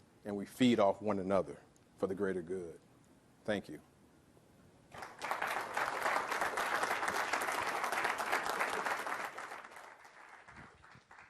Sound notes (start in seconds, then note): 9.2 applause